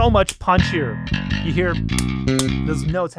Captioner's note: clicks